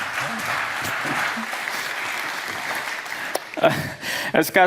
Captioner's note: applause